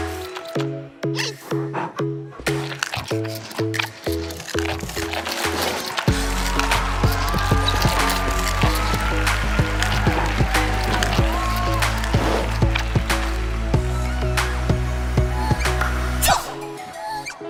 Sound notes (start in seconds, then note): 4.6 panda noises; 9.1 applause